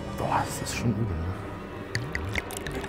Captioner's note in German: Schluckgeräusche; Unheilvolle Musik